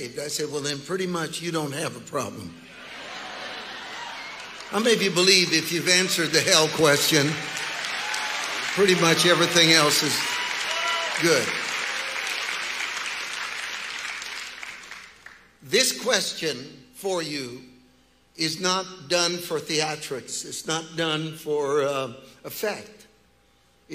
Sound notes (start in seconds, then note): 2.8 congregation laughing and cheering; 7.7 congregation cheering; 11.5 congregation applauding